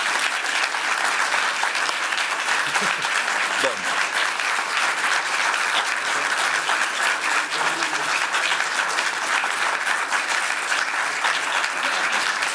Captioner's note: applause